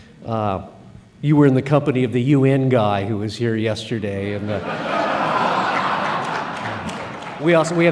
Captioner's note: all laugh